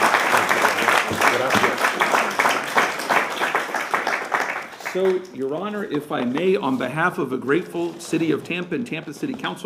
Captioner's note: applause